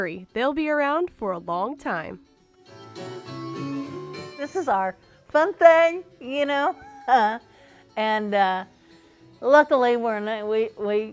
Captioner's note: laughing